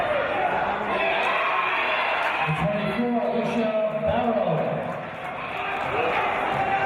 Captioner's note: cheering from audience